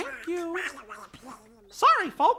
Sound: distant Donald disgruntled muttering

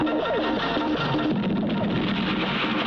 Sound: explosion

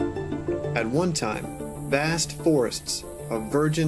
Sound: insects buzzing

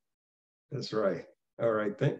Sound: chuckling

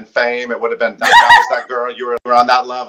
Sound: laughing

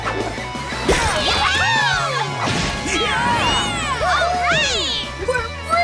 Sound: cheering

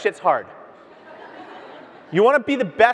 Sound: audience laughs

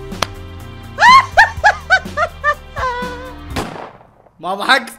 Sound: in-video loud laughter

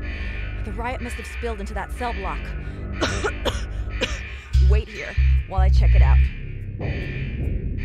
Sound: coughs

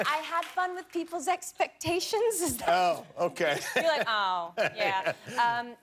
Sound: laughter

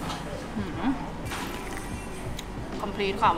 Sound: slurps

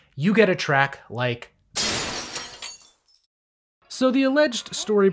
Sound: glass shatters

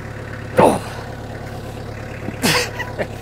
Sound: grunts

